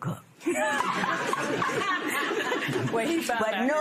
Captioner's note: laughter